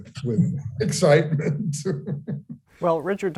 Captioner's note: laughing